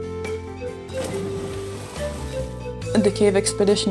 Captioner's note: water splashing